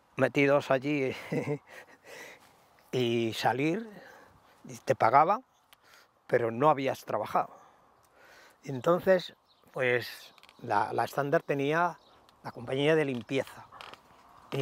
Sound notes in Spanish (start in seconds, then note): 1.1 Ríe